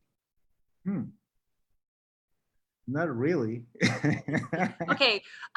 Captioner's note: laughs